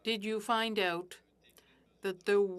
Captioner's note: speaking French